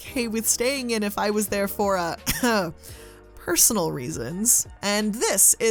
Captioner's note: coughs